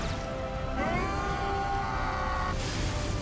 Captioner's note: both screaming